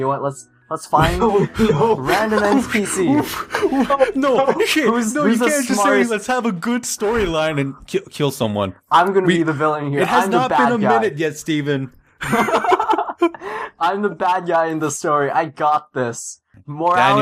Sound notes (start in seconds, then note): 1.0 confused and slightly baffled laughing; 12.2 laughing